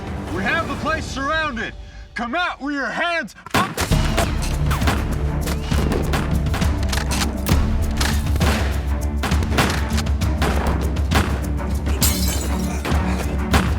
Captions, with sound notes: WE HAVE THE PLACE SURROUNDED! COME OUT WITH YOUR HANDS- [GUNFIRE] [GLASS SHATTERS]